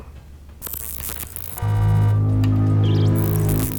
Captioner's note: detector buzzes; ominous tone